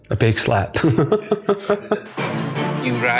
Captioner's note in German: lacht